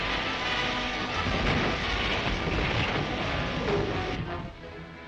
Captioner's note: building crashing